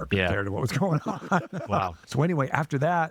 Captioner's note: laughing